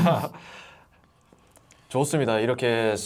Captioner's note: laughing out loud